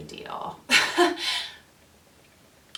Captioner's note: laughs